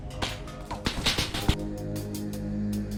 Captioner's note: shots, followed by a scream